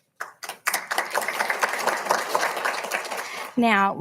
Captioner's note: audience applauding